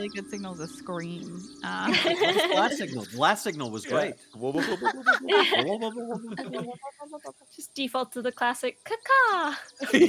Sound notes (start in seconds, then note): 1.7 Calla laughs; 4.4 Cornette laughs; 4.6 Violette laughs; 9.6 laughs